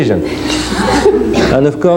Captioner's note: laughs